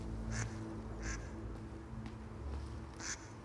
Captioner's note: ducks quacking